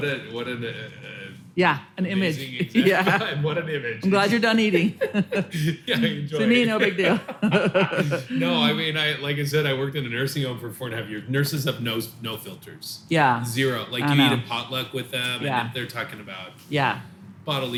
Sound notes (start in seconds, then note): 2.6 laughs; 7.7 both laugh